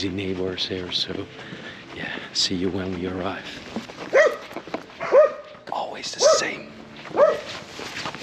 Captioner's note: dog barking